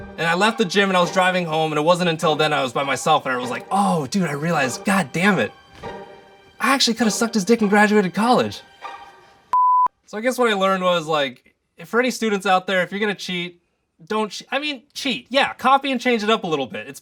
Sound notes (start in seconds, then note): 9.5 beeping